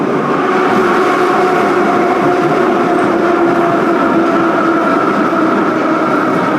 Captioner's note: braking - arrival at the station